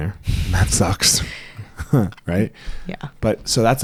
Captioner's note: laughs